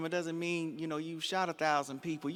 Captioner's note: none